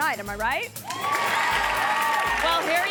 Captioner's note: audience cheering and applauding